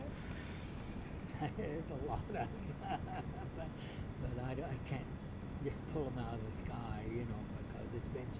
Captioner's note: laughs